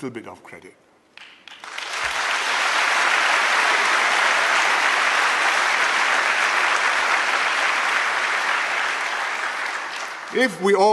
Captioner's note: applause